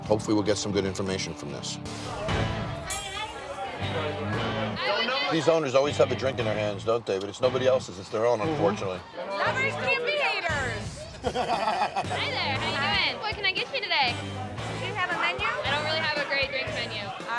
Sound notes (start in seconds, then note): 3.0 bar patrons chattering; 11.0 laughs